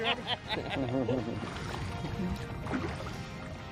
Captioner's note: laughs